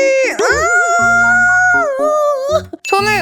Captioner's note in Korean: 비명